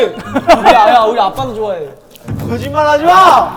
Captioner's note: Squish